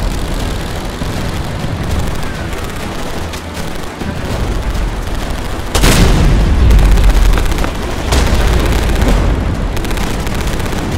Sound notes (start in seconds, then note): 0.5 Explosions and missile sounds; 5.7 Heavy explosion